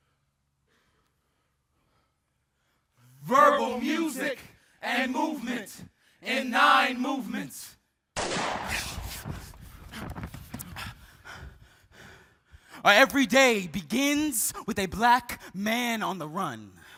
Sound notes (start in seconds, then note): 8.1 gun bangs; 8.8 group panting